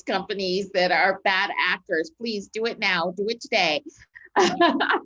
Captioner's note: laughs